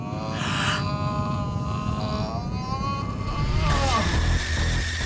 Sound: ominous music; Jenelle gasps; man groaning; tense sinister music

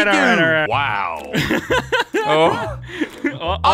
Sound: laughing

